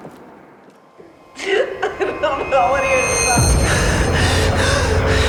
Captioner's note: woman crying